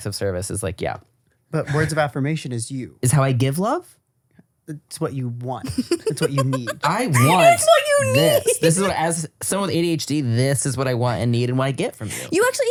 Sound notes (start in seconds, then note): 5.6 laughing